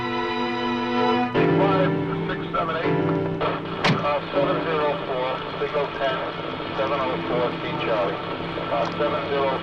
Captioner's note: police radio